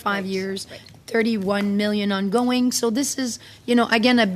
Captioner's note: speaking French